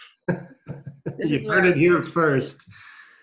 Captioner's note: laughing